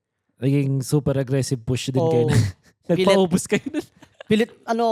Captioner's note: laughs